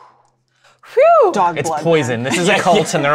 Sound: exhales in relief; whew!; laughter

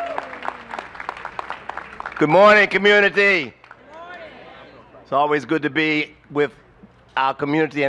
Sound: applause

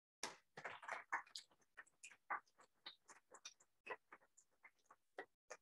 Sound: applause

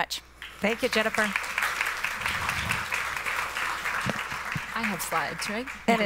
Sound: applause

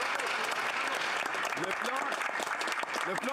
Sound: some Applause

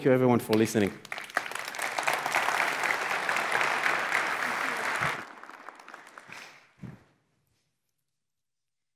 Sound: applause

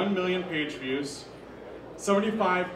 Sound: none

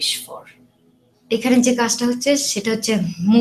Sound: non-english

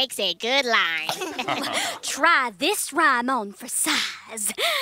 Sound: laughter

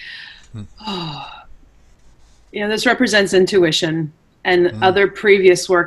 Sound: sighs

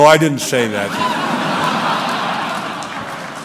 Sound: laughter

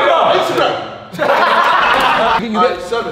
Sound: group laughs

